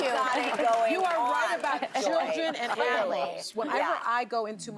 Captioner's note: laughter